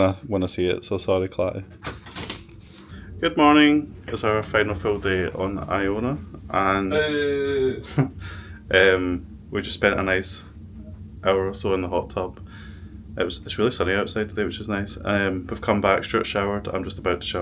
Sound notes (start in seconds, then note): 6.9 boooo